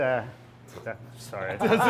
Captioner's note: laughing